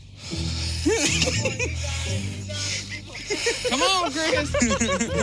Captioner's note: boys laughing